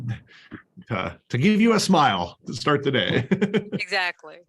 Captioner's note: laughter